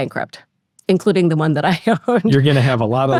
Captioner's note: laughs